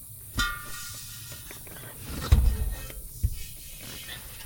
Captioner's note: gas hissing; canister thunking